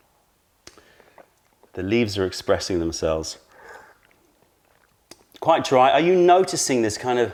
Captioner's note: sips tea; sips tea